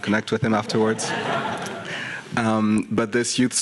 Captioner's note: audience laughing